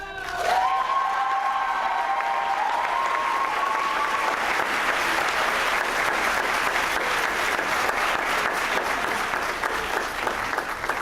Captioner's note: applause